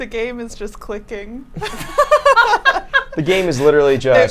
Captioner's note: group laughs